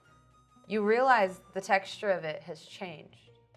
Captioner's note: none